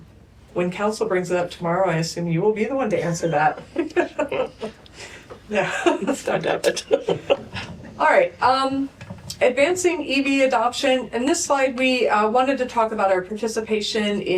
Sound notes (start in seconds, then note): 5.6 laughter